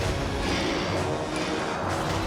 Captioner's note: drone ships whir